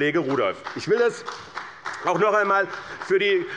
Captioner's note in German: Beifall bei Abgeordneten der CDU